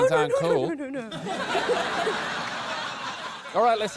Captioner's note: laughter